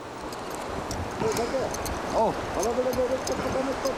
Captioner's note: indistinct chatter